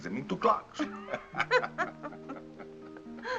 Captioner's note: both laugh